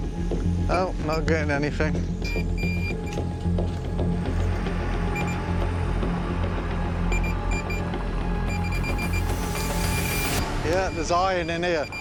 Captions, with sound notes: No, not getting anything. (detector beeping) (rapid beeping) Yeah, there's iron in here.